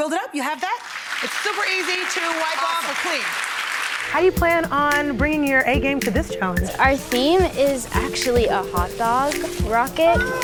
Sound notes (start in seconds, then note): 0.6 audience clapping; 4.1 calm music